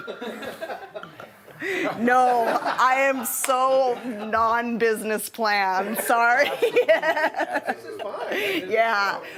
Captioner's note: laughs; laughter from audience